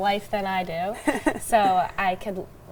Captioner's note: chuckles